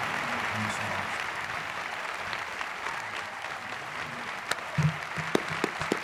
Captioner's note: Volodymyr speaks faintly